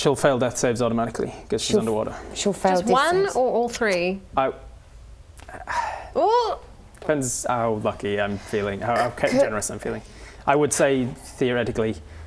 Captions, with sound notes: She'll fail death saves automatically because she's underwater She'll fail death saves Just one or all three? I *sigh* Ooh! Depends how lucky I'm feeling how generous I'm feeling I would say, theoretically